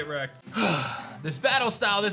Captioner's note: sighs